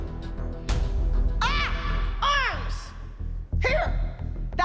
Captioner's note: yelling